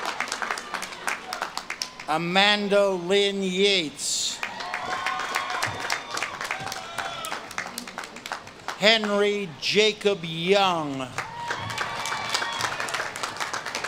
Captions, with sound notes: Amanda Lynn Yates. (audience claps and cheers) Henry Jacob Young. (audience claps and cheers)